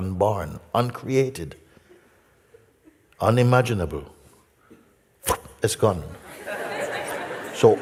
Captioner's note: Lachen